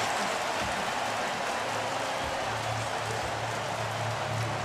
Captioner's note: cheering